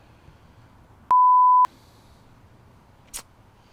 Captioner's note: beep